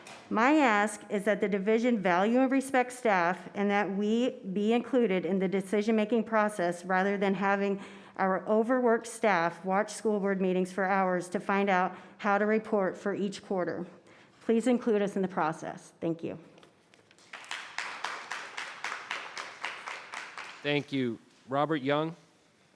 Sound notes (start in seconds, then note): 17.2 audience applauds